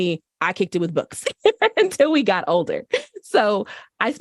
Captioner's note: laughter